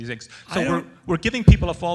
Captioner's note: voiceover